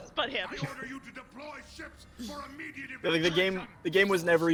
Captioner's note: laughs